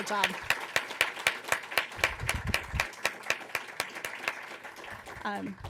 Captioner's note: applause